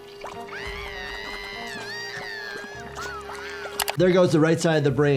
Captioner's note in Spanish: cerebro burbujeando